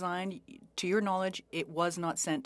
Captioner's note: speaking French